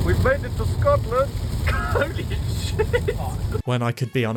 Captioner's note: rain belts the car, as and his friends make various screaming noises